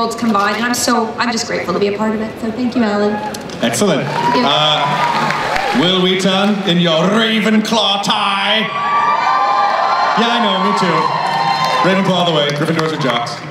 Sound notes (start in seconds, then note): 3.4 crowd applauds; 8.8 crowd cheers